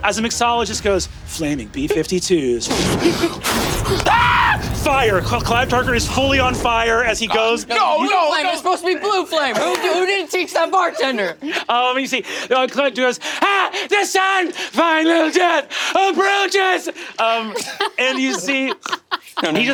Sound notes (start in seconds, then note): 3.3 Brennan mimics flames roaring; 3.4 Brennan screeches; 17.5 laughing